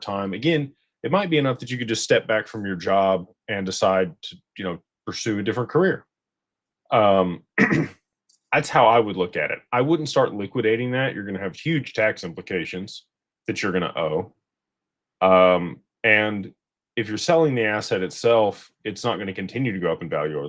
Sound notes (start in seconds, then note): 7.3 clears throat